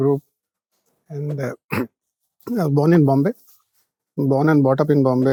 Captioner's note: clears throat